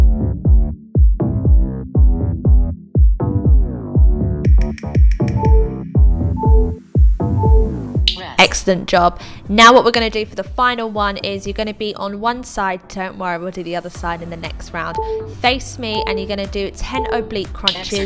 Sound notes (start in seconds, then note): 0.2 upbeat music; 5.2 machine beeping; 16.0 machine beeping